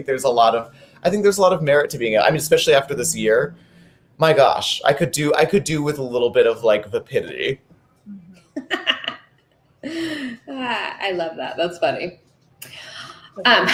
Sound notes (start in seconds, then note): 8.3 laughing